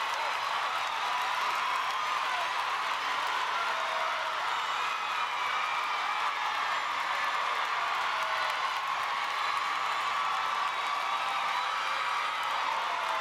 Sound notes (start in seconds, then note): 0.0 applause; 1.1 screams